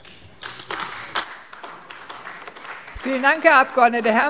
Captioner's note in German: Beifall AfD